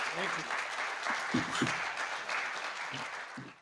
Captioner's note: audience applauding